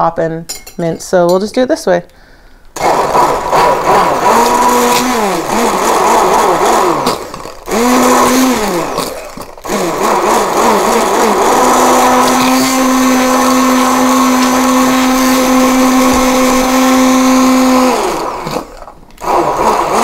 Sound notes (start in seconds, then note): 2.9 blender whirs